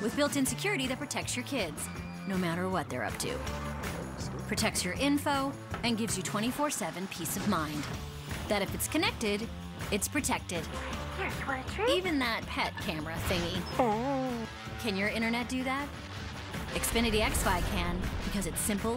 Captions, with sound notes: With built-in security that protects your kids... ...no matter what they're up to. It protects your info... ...and gives you 24/7 peace of mind... ...that if it's connected, it's protected. Even that that pet-camera thingy. [ whines ] Can your Internet do that? Xfinity xFi can because it's...